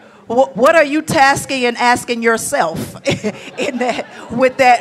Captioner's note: laughs